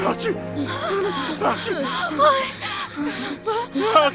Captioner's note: sobbing